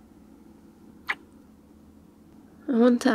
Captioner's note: kiss